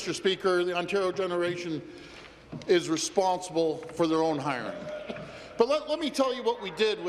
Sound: some Applause

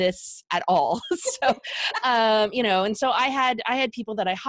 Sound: laughing

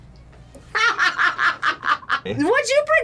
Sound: laughs

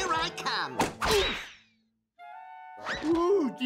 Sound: thuds

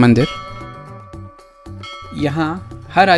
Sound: bell Sound

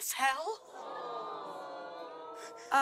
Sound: audience awws

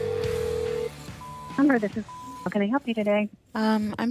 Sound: beeping

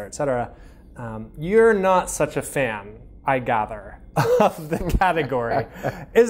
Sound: laughing; laughs

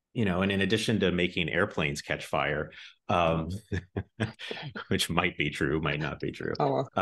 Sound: both laugh

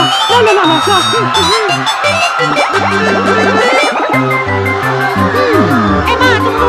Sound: High Pitched Koopa Language; italian Gibberish

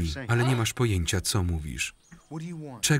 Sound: groans

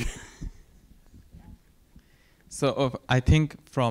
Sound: laugh

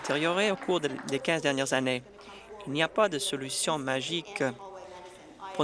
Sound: applause

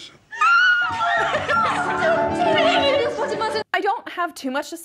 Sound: crowd cheers

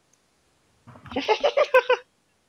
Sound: laughs

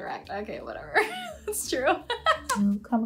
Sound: laughs

